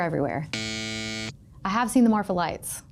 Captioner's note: klaxon buzzes